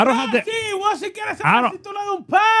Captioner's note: speaking In Foreign Language